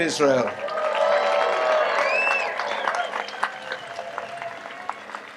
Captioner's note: audience applauds and cheers